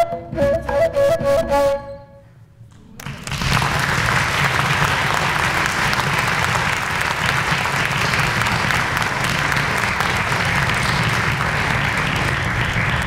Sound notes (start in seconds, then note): 2.9 clapping